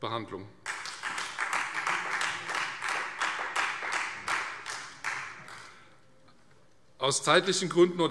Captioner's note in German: Beifall Freie Demokraten